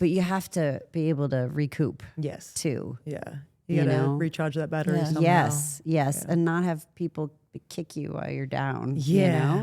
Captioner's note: none